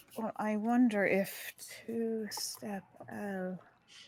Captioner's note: none